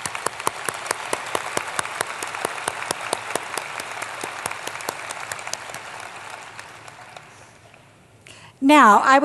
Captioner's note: applause